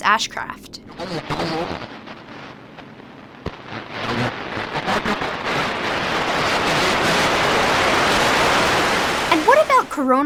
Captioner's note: electrical static noise